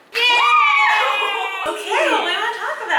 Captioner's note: squealing